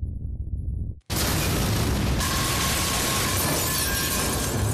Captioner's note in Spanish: explosión